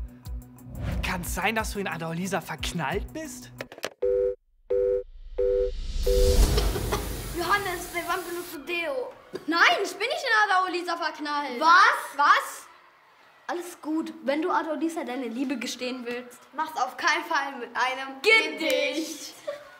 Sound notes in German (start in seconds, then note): 5.3 Besetztton